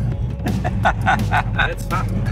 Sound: person laughing

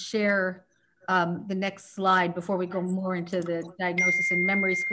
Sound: 'ding' sound from a mobile phone

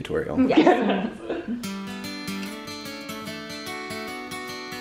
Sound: laughs; light acoustic guitar

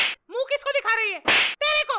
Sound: slap sound

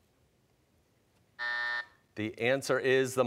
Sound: buzzer

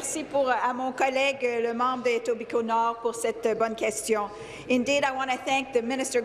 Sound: speaking in French

